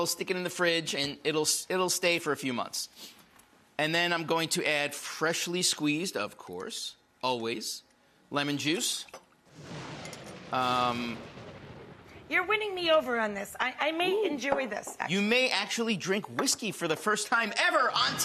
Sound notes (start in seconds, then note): 9.4 lighting cracking